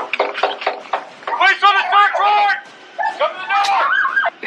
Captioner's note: metal clatters, knock on door